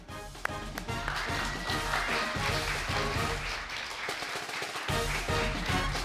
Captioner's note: audience applauding; dramatic music